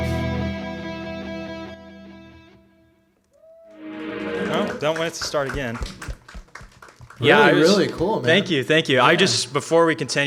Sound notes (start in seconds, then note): 3.9 soft music; 5.7 audience clapping